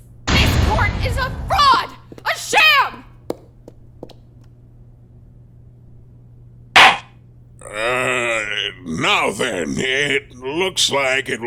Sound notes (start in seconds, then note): 3.9 heels clicking!; 6.8 gavel slams!